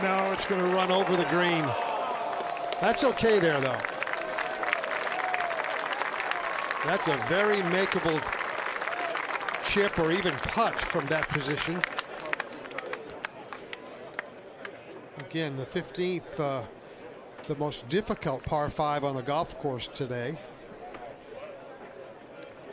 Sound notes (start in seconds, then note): 9.6 applause